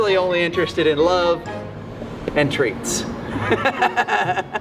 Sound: laughs

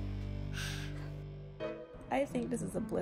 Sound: sighs

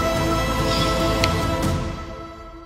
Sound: snapping

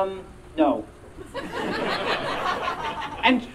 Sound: audience Laughing

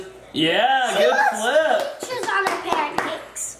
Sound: claps

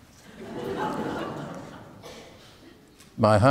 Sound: audience laughing

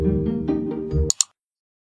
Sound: click!

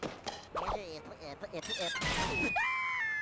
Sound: stuttering; Porky screaming

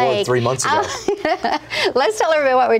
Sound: laughs

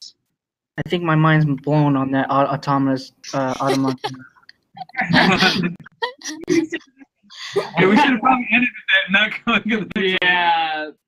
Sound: everyone laughs

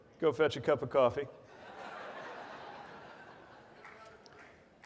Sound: audience laughs

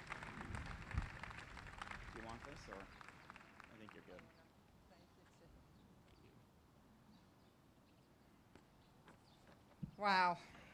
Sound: applause

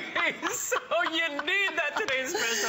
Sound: laughter

